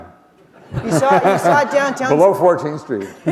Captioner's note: laughter